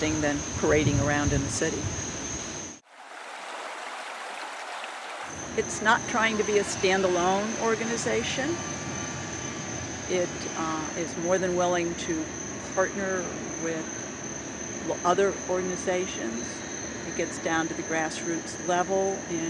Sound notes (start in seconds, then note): 2.9 water running